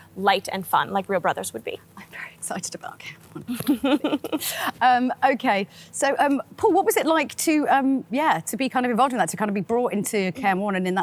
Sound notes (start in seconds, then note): 3.4 giggles